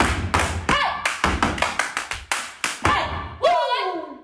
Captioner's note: energetic hand claps and feet stomps; dancers exclaiming